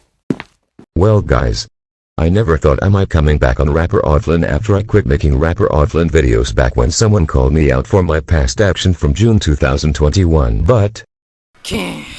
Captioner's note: sighs